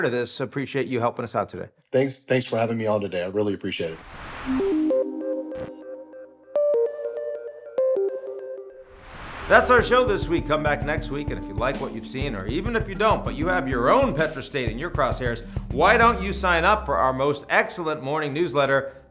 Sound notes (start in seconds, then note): 3.8 screen whooshing; 4.5 pensive music; 5.4 pensive music continues; 5.4 text buzzing; 8.9 screen whooshing